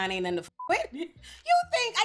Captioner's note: beep